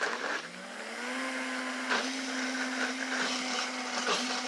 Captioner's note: blender whirs